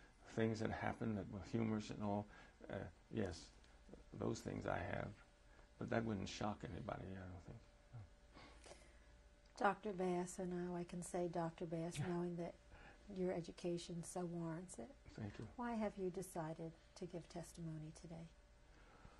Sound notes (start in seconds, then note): none